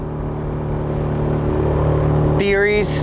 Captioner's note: boat engine running